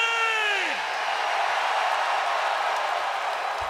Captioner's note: crowd cheers